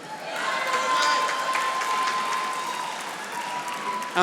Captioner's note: audience applauding